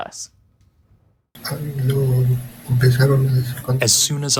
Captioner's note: through translator